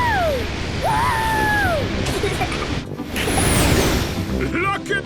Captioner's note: rocket thrusting